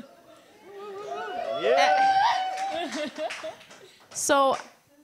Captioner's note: audience cheers